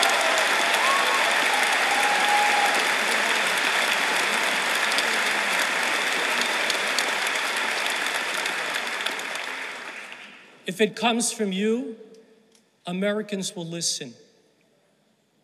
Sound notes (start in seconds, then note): 0.0 applause